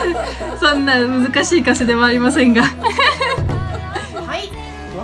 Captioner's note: haha; haha